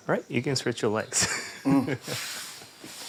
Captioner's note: chuckles